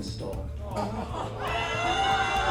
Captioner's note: audience shouting